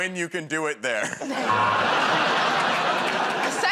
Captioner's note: buzzer